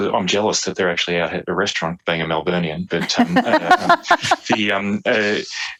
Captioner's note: laughter